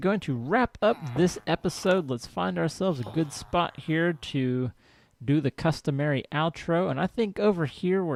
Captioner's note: chattering diminishes